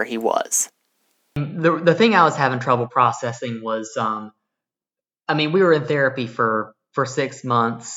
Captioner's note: on phone